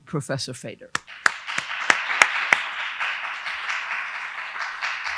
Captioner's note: audience applauding